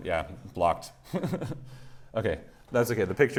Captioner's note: laughs